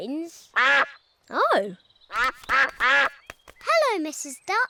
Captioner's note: all quack